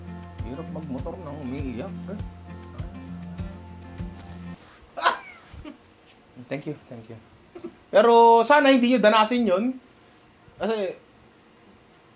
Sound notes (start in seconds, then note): 5.0 laughs